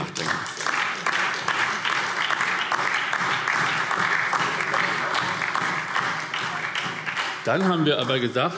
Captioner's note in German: Beifall SPD und DIE LINKE